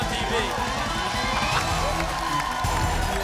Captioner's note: applause